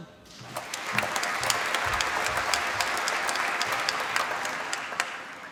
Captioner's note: applause